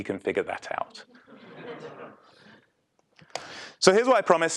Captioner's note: laugh